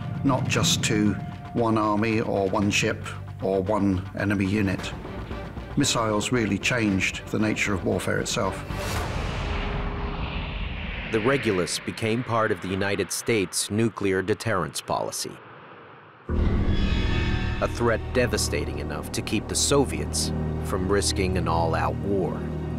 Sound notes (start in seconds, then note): 9.8 planes flying; 16.2 dramatic instrumental music